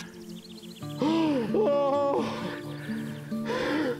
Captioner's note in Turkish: Bağırıyor